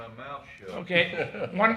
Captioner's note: chuckles